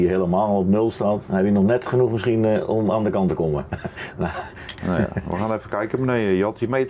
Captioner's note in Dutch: gelach